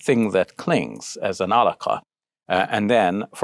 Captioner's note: speaking in foreign language